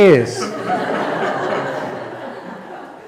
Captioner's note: laughter